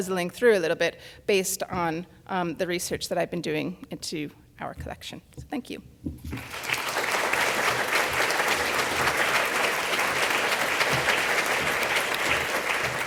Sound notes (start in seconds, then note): 6.4 audience applauds